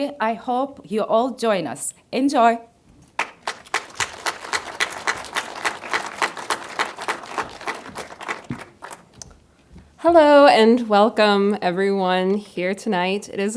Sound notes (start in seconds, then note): 3.1 crowd claps